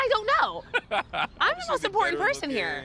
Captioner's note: laughs